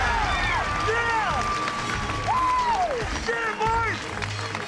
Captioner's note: cheering